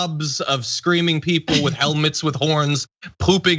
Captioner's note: laugh